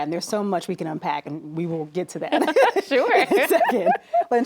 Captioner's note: laughs